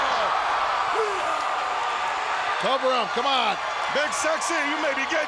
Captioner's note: crowd cheering